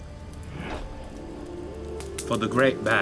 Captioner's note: fire crackling; gentle music